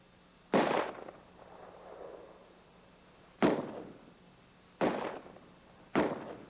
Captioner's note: gunshots